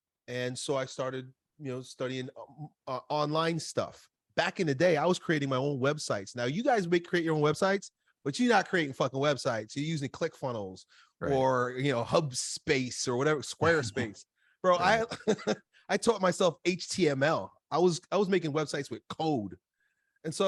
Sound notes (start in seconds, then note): 14.8 laughs